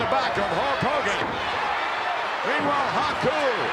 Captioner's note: crowd shout